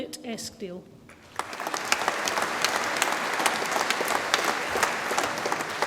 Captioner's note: audience applauds